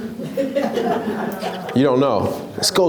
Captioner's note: laughs